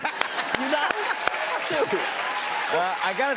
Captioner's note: cheers and applause